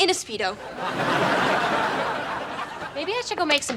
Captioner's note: laughs